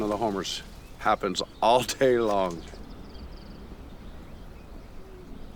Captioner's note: laughs